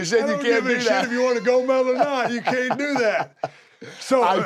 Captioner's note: laugh